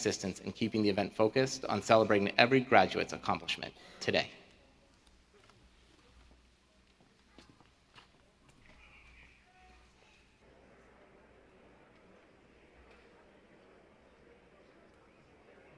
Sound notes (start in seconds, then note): 8.0 processional music; 10.5 cheering